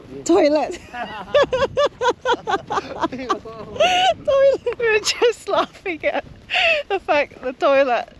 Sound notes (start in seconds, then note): 0.7 laughter